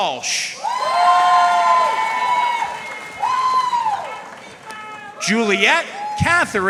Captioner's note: audience cheering and applauding